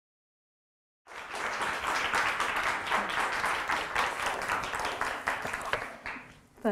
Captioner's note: audience applause